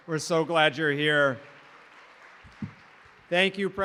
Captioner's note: applause